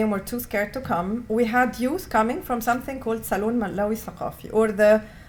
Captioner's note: non-english